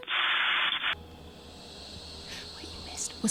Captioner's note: white noise